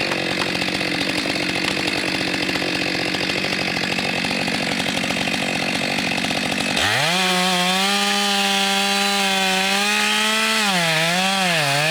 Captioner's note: sound of chainsaw